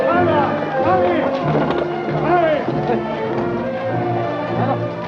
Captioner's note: speaks foreign language